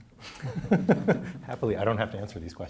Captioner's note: laughs